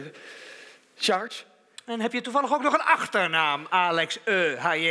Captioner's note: none